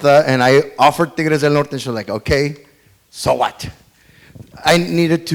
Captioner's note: speaks foreign language